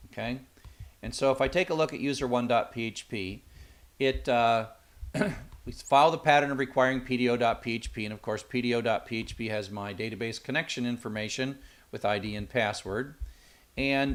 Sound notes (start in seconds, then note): 5.1 cough